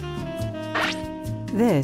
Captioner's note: "zap" of X-ray gun